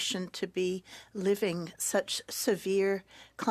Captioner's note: speaking French